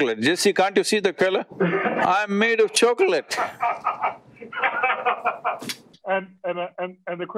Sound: Vusi laughs

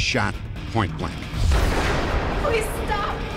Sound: gunshot

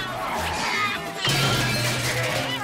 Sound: meowing; thudding

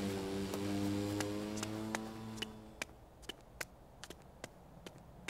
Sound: footsteps clacking

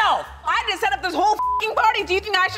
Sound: beep

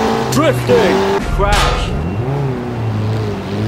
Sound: crash

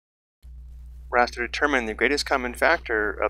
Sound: voiceover

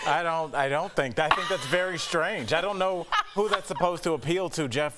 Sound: laughter

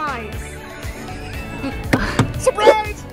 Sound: laughs

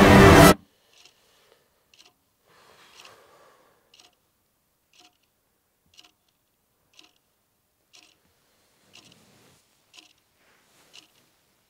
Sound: clock ticking

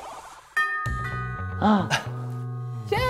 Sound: ding dong ♫

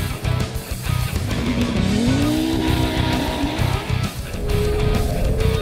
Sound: car engine roaring

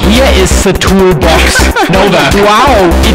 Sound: hilarious laugh

